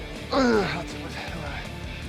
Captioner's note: grunts; upbeat rock music continues